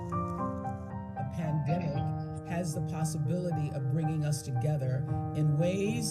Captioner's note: voiceover